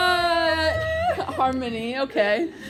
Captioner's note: laughs